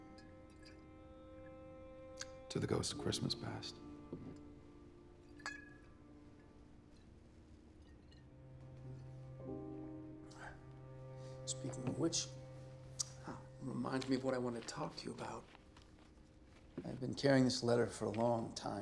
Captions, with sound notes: TO THE GHOST OF CHRISTMAS PAST. [CLINK] SPEAKING OF WHICH, THAT REMINDS ME OF WHAT I WANTED TO TALK TO YOU ABOUT. I'VE BEEN CARRYING THIS LETTER FOR A LONG TIME.